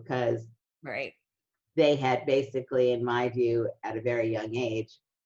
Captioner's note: none